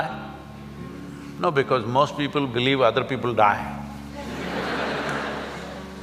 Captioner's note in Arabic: ضحك